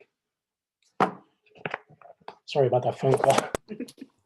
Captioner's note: phone slams